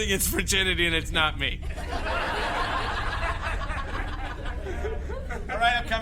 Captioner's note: audience laughter